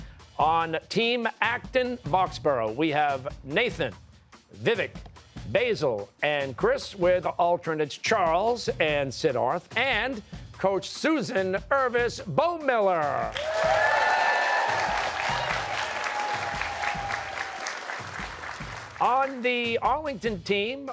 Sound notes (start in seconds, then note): 13.3 cheers and applause